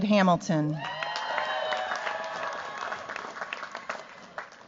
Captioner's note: cheers, applause